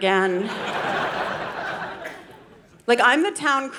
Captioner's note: audience laughing